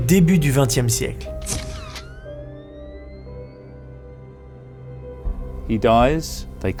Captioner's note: flash from a camera